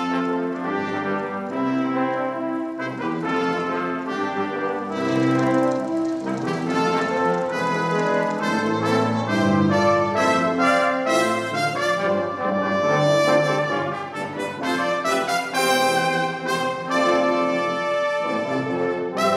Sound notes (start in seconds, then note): 7.7 applause